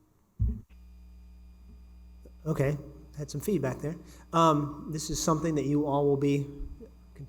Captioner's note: feedback noise